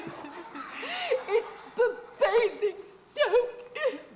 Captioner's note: she continues to weep